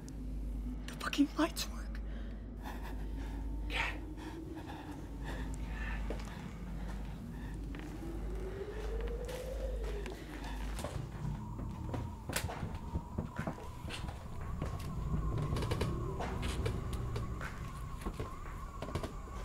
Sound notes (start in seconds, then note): 0.8 frantic whisper; 3.5 whisper yell; 11.6 creaking floor; 13.6 whistling wind